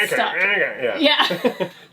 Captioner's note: laughs